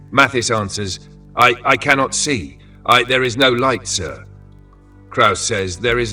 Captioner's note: in a hoarse voice